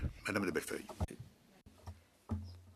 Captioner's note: speaking in French